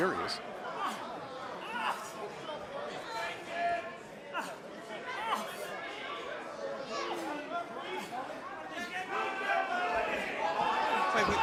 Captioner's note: crowd chatter